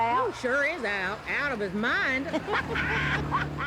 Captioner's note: bitsy and betsy laughing